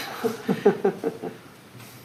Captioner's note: OR KIA chuckles